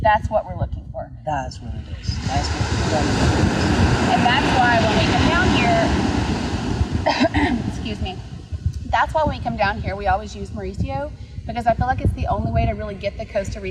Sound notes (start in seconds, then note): 1.7 waves crashing; 7.0 coughs